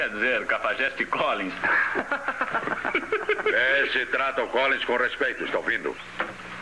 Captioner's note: laughs